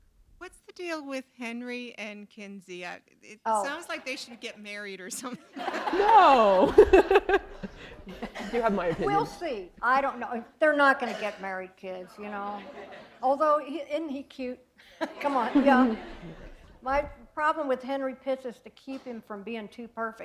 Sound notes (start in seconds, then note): 5.2 laughter; 7.3 chuckle; 14.9 laughter